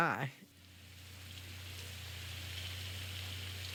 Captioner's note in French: bruit d'eau